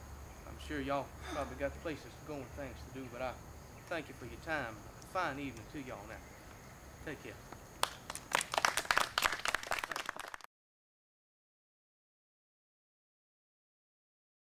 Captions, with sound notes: I'm sure y'all got pro'bly got places to go, things to do, but I thank ya for your time. A fine evenin' to y'all now. Take care. (Applause)